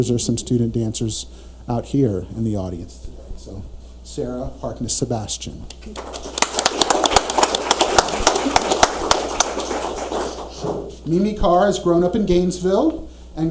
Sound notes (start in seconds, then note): 5.7 audience laughs